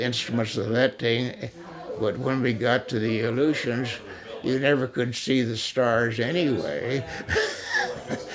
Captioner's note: laughs